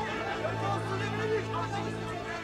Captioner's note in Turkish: Yuhalama sesleri